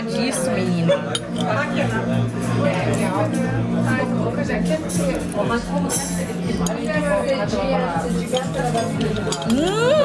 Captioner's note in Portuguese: ambiência de restaurante